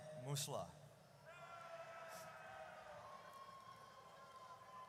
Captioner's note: audience cheers